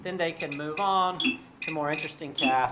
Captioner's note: pings